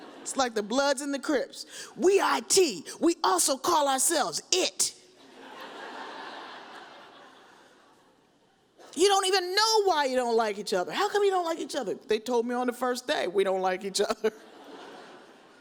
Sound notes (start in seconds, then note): 5.2 audience laughs